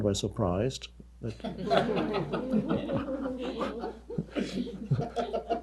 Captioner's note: audience laughing